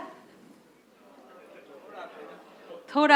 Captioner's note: speaks in Hindi